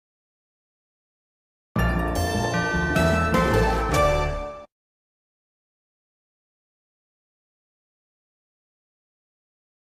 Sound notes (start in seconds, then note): 1.8 upbeat orchestral music; 4.9 silence